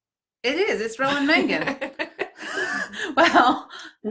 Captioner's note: laughing